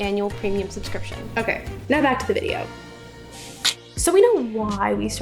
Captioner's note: clicks tongue